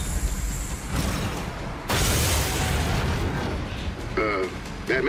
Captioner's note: mechanical whirring; explosion and crashing